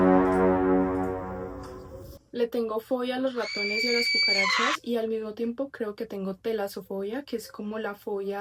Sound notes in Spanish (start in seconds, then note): 3.4 grito